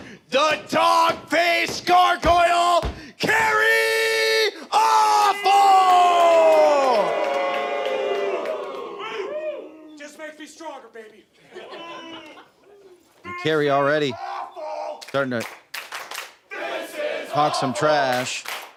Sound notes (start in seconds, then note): 7.0 crowd boos; 11.4 crowd laughs and boos